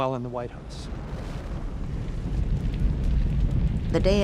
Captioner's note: fire roaring